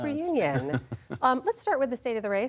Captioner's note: laughter